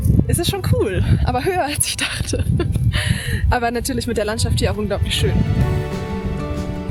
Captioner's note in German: gelächter